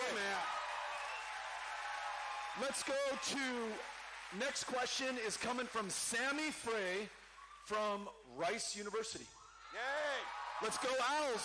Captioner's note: cheering